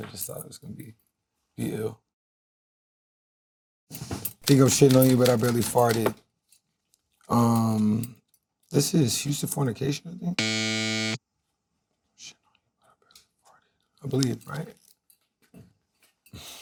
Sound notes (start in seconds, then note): 10.4 buzzer buzzes; 13.9 whispering